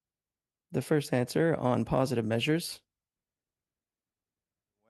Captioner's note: speaking French